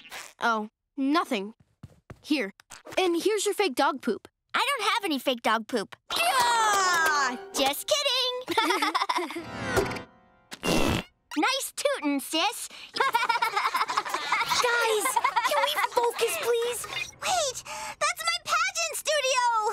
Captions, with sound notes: Oh, nothing. Here, and here's your fake dog poop. I don't have any fake dog poop. [screaming] Just kidding! [laughing] [farting sound] Nice tootin', sis. [laughing] Guys, can we focus, please? Wait, that's my pageant studio!